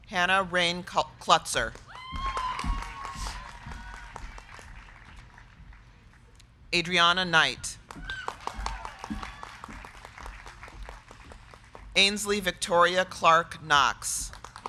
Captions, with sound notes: Hannah Rayne Kloetzer. (crowd cheering) (crowd clapping) Adriana Saskia Knight. (crowd cheering) (crowd clapping) Ainsley Victoria Clark Knox.